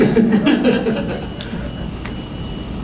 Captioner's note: laughter